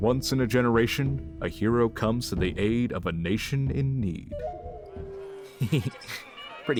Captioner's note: laughs